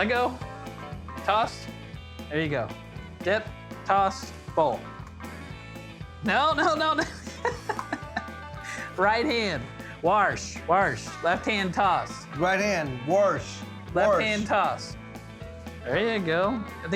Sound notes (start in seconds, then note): 7.0 laughing